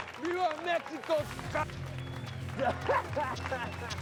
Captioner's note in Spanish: aplausos; risas; aplausos